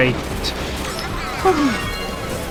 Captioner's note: sigh of relief